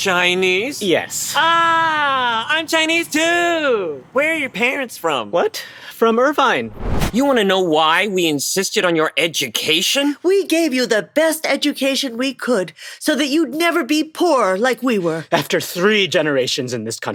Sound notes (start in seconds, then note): 6.6 flashback sound